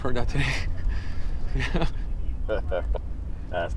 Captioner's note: nervous chuckle